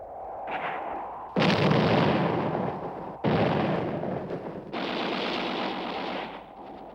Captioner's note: explosions